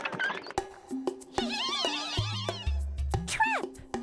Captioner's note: giggling; giggling